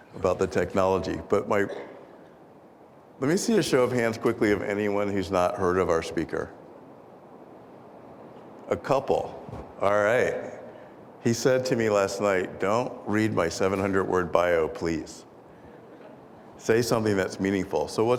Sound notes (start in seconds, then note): 15.7 audience laughing